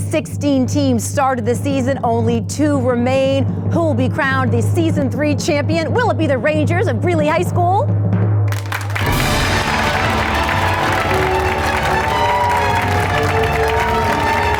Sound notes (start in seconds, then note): 8.5 audience applauds; 10.2 triumphant music